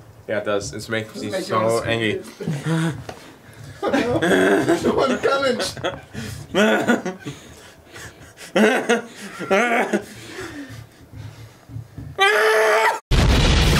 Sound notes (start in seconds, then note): 2.4 shudders; 6.5 angry noises; 12.2 suppressed scream